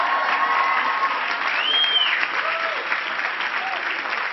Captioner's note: cheering and clapping